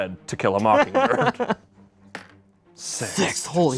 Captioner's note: laughs